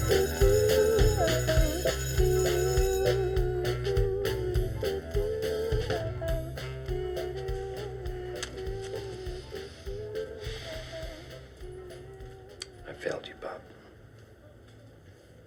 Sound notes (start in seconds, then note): 0.0 school bell rings; 10.2 sighs